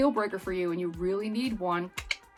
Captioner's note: clicks tongue